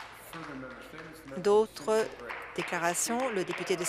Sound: some Applause

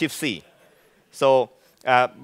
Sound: laughing

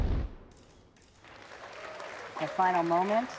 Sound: crowd cheering

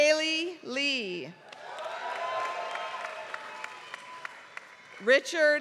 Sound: applause

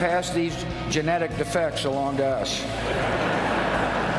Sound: laughter

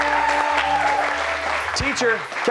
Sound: cheers

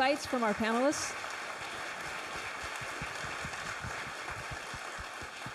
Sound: audience applauds

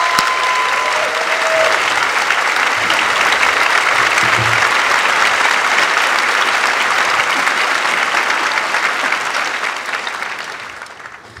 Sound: applause

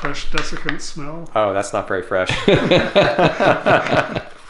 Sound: laughter

